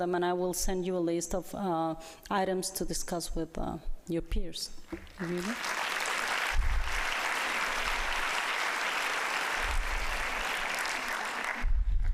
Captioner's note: applause